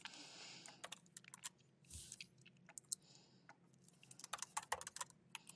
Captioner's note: keyboard clacking